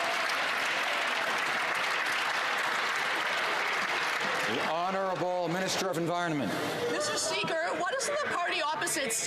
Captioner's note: some Applause